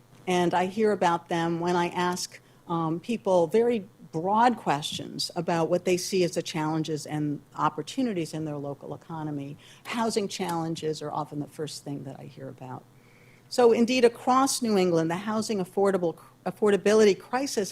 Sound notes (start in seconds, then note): none